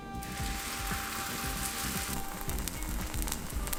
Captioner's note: pancake sizzling